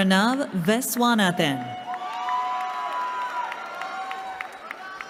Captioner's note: cheering